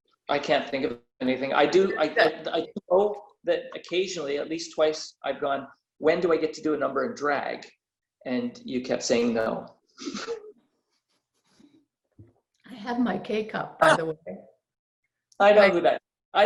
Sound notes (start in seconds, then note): 10.1 laughter